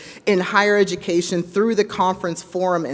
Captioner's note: none